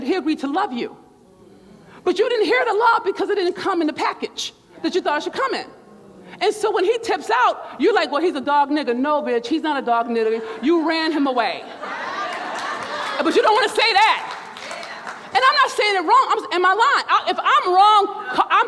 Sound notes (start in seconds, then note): 1.2 crowd murmurs; 10.4 crowd laughs; 11.8 crowd laughs, claps